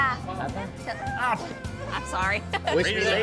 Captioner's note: whines; laughs